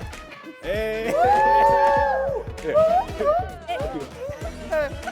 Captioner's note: upbeat music; all cheering